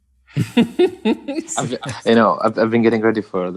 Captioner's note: laughing